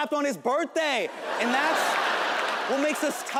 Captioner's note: audience laughing